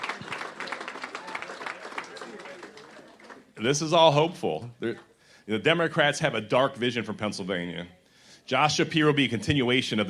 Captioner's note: cheers